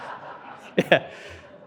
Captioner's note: laughing; audience laughing